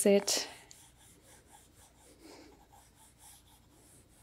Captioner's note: pencil scratching